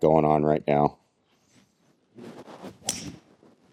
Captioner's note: air whooshing